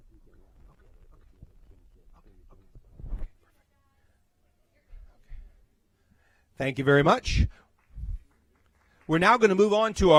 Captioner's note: applause